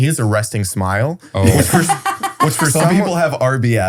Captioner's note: laughs